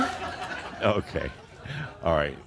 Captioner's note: more chuckles